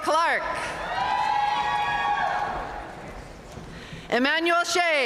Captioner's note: audience cheering and applauding